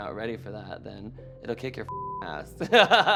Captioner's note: beep